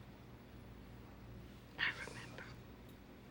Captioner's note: whispers